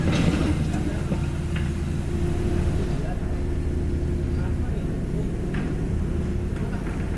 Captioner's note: heavy asmr